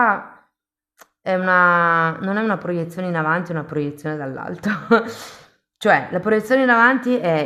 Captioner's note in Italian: risate